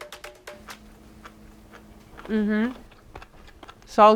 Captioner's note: popping sounds